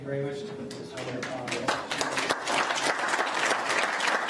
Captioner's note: applauding